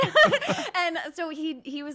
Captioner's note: giggling